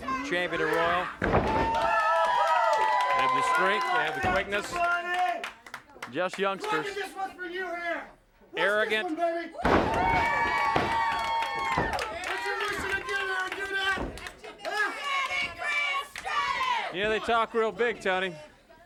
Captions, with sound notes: Champion and Royal. They have the strength, they have the quickness, just youngsters. Look, this one is for you here. Arrogant. Watch this one, baby. (audience cheers) Don't you wish you were here, you could do that? (audience hollers) Yeah, they talk real big, Tony.